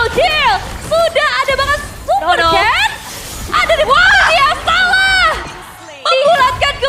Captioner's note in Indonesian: berteriak